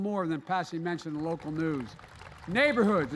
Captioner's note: applause